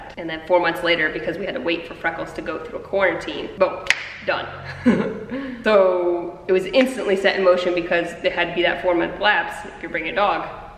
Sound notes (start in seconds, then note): 3.8 snaps; 4.6 laughs